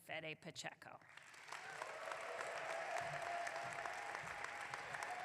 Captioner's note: audience clapping